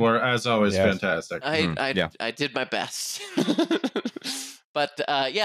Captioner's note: laughs